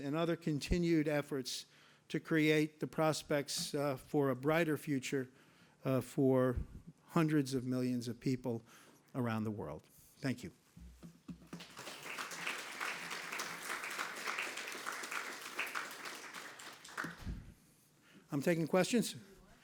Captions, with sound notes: and other continued efforts to create the prospects for a brighter future for hundreds of millions of people around the world. Thank you. (audience applauding) I'm taking questions?